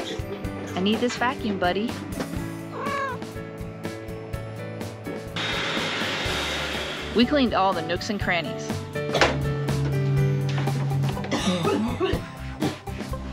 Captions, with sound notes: I need this vacuum buddy. (vacuuming) We cleaned all the nooks and crannies. (coughing)